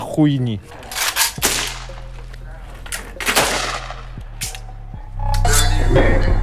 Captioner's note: more shooting